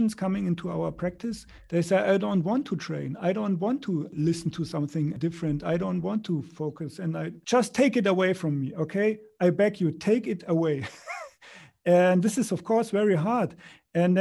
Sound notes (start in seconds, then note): 10.8 laughs